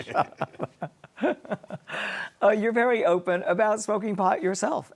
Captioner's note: laughing